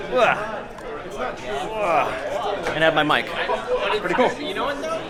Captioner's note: party goers chatting